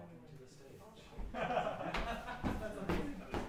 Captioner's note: laughing